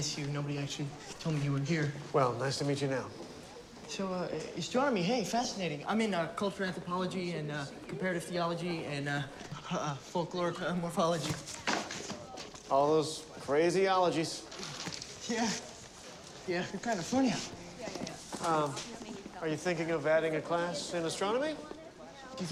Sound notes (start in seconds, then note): 10.4 books clatter